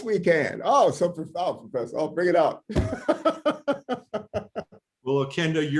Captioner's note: laughter